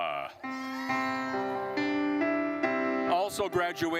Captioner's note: gentle music continues; attendees cheering